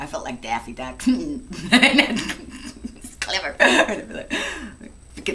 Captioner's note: snicker!